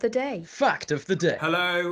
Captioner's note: male Voice